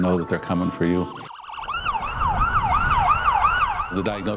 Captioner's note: sirens wailing